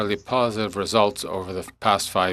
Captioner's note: speaking French